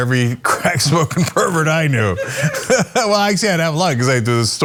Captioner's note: laugh